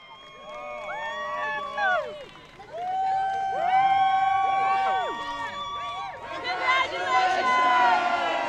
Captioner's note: crowd cheers